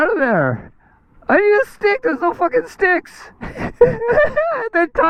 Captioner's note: laughs